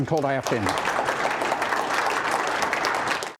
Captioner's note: applause